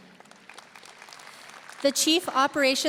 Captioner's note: audience applauding